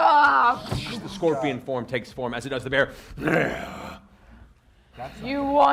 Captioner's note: growls